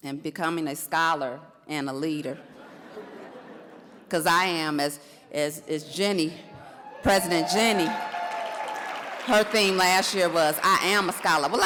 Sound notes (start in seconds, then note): 2.4 audience laughs; 6.8 audience cheers and applauds